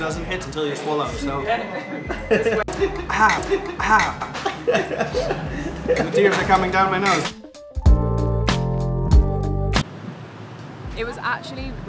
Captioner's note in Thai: เสียงหัวเราะ